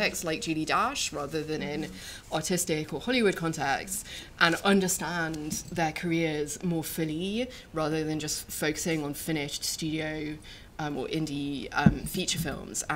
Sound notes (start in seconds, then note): none